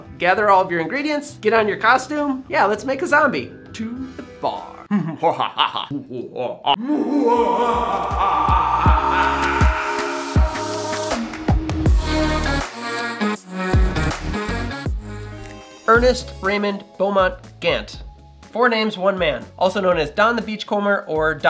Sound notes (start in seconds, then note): 4.8 maniacal laughter; 9.4 intro music